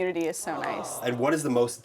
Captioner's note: awwwww